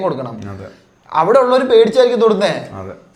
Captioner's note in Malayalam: ചീറ്റുന്നു